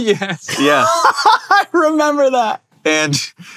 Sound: laughs

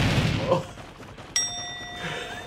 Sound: groans

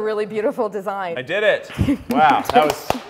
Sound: clapping

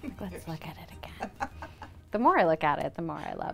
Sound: chuckling

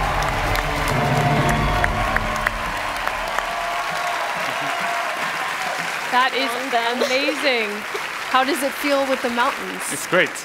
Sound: cheers and applause

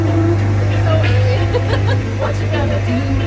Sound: laughs

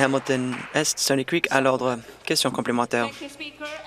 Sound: applause

